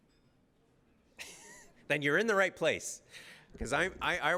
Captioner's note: laughs